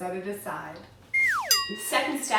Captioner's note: whooshing